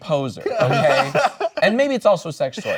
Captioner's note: laughing